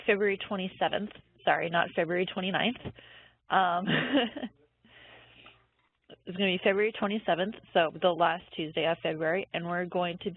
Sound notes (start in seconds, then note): 3.9 laughs